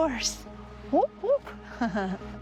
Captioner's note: chuckles